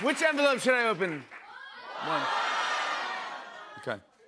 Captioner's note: audience shouting